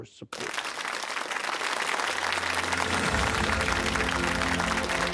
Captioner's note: applause